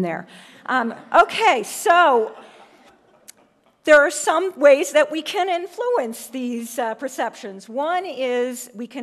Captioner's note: laugh